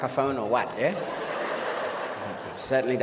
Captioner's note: audience laughs